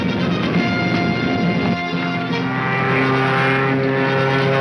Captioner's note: engine humming